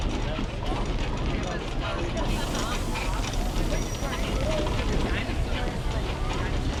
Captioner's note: people talk randomly; brakes squeal